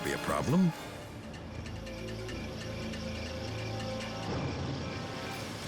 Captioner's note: crickets chirping